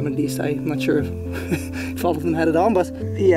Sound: laughs

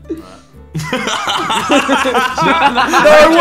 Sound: laughing

